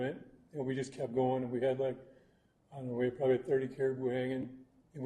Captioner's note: none